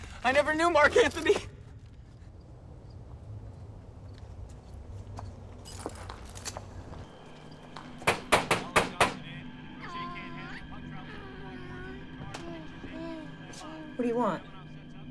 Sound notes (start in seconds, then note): 8.0 knocking; 10.0 baby cooing